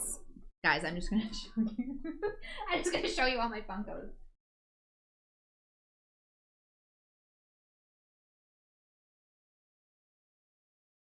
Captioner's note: laughs